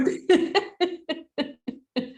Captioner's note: laughter